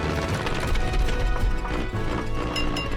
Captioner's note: upbeat music; engine struggling; taps glass